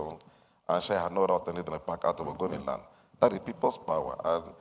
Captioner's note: speaks in foreign language